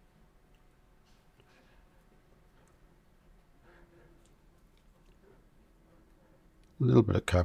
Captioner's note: silence